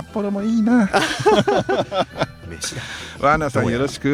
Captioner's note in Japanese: 笑い